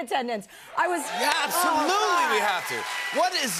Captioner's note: cheers and applause